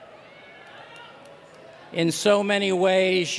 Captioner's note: cheers and applause